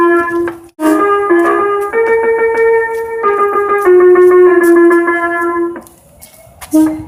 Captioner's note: air Horn + Music Horn; air Horn + Music Horn; air Horn